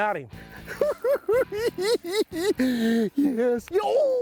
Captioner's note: cackling